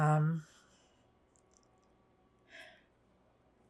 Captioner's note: pauses 6 seconds